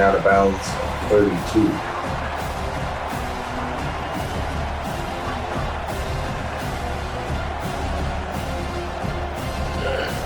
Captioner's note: crowd Noises